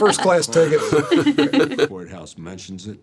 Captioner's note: laughing